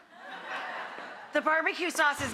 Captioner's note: laughter